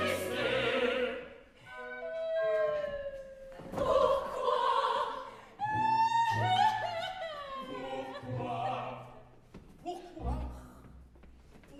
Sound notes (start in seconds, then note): 2.0 GABRIELLE weeps; 6.0 GABRIELLE weeps